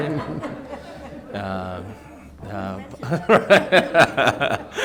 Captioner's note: board members laughing